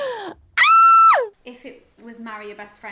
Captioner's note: screams